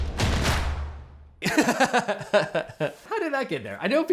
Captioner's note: drums beat; host laughs